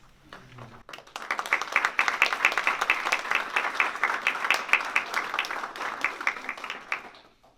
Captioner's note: applause